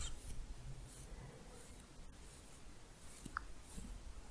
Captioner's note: stroking bristles